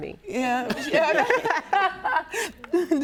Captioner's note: laughs